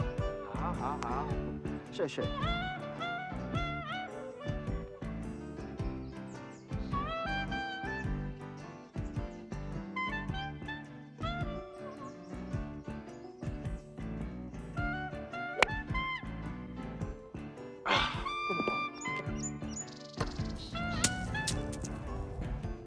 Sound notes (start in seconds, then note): 0.2 speaking foreign language; 17.8 groaning; 19.3 swanky music